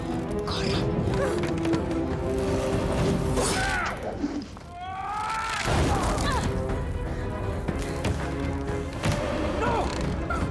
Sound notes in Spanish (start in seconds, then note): 4.6 da grito; 4.6 gritan